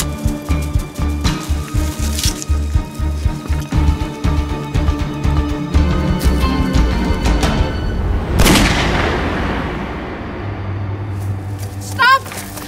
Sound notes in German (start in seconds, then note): 8.4 Schuss